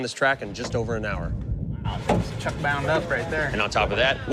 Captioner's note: thunder rumbling